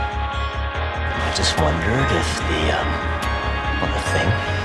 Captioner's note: voiceover